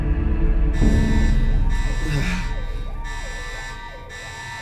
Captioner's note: alarms blaring; moans